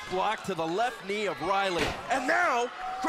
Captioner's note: crowd cheering